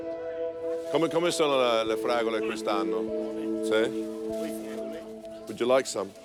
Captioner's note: speaking in Italian